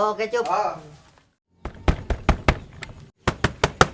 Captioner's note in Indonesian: suara ketuk pintu